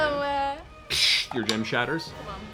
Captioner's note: glass breaking noise